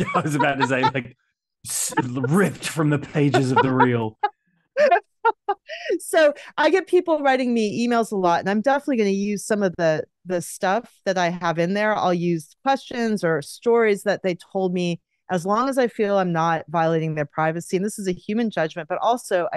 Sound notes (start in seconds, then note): 4.8 laughs